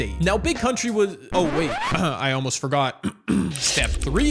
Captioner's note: clear throat